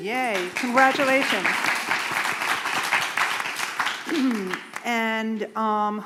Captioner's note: applause